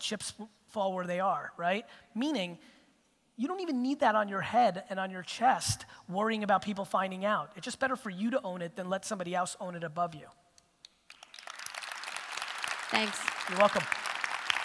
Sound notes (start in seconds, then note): 11.0 audience applause